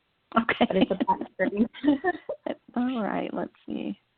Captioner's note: laughter